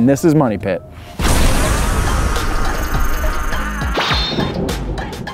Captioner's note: thunder crashing